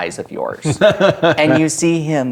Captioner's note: laughing